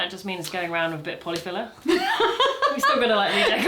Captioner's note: laughter